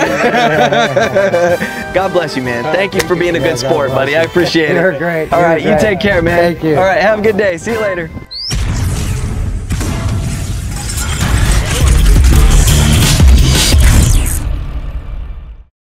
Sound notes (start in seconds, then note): 0.0 laughter; 9.7 metallic sounds